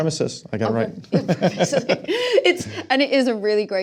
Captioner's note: laughing